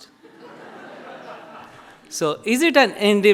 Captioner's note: audience laughs